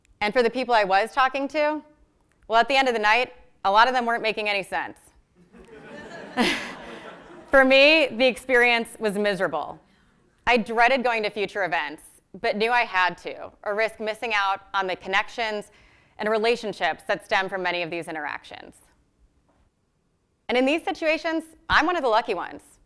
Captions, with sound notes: And for the people I was talking to, well, at the end of the night, a lot of them weren't making any sense. >> [LAUGH] >> For me, the experience was miserable. I dreaded going to future events, but knew I had to. Or risk missing out on the connections and relationships that stem from many of these interactions. And in these situations, I'm one of the lucky ones.